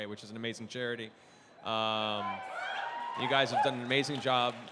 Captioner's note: cheering